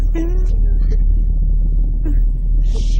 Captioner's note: whimpering